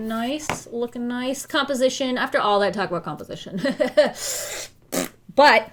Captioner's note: blows raspberry